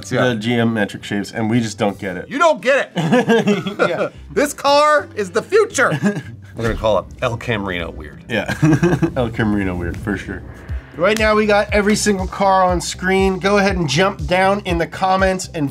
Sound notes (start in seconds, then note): 3.0 laughs; 8.5 laughs